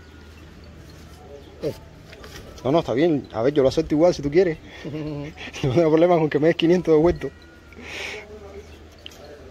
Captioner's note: laughs